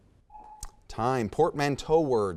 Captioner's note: timer buzzes